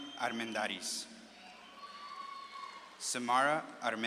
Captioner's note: audience claps and cheers